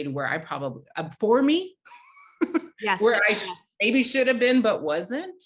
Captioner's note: chuckles